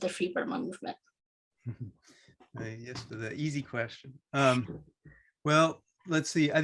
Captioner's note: chuckles